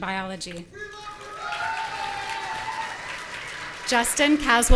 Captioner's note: audience cheering and shouting